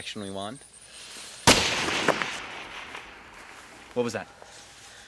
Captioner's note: gun firing